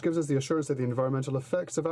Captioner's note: speaking in french